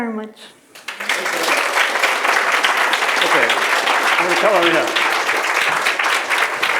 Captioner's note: applause